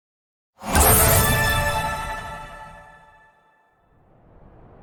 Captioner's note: chime ringing